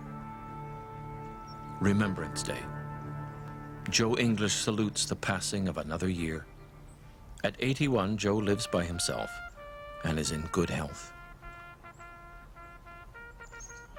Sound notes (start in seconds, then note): 0.7 voiceover